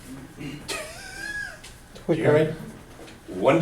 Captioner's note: laughter